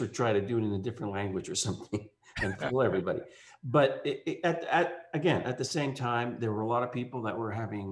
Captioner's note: laughs